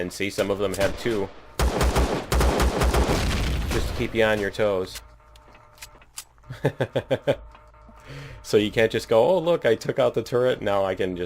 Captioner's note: laughs